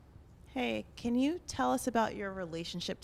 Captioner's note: voiceover